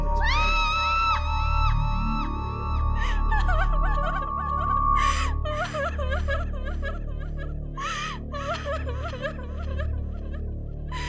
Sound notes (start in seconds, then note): 0.3 girl screams; 3.0 girl weeps aloud